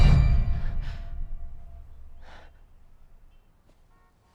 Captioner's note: Bryn huffing